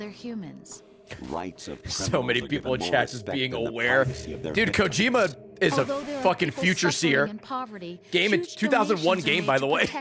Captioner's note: laughs